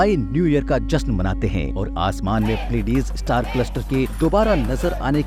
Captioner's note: chanting